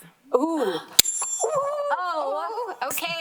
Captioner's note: bell ringing